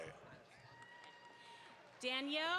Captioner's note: audience applauds